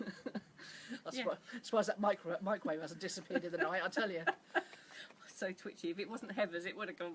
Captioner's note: laughs